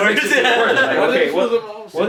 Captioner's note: laughing